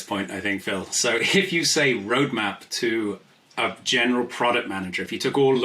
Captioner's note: laughs